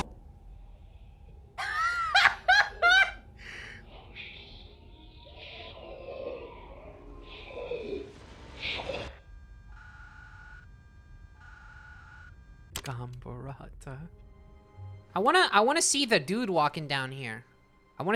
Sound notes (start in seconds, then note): 0.2 sounds become quiet, monstrous speech; 1.6 laughs; 9.2 tape stops, clicks